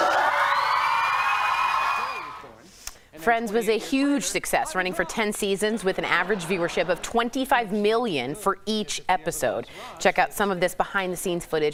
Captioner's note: cheers